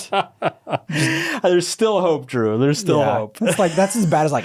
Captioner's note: laughs